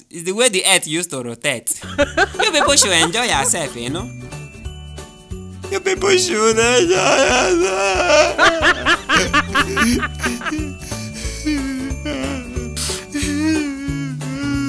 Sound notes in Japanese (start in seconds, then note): 6.6 マークの泣き声; 12.5 マークの嗚咽